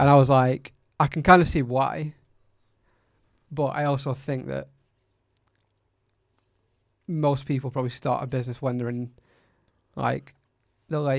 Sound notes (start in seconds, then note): none